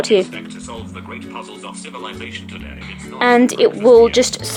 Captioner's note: Male voice on iPhone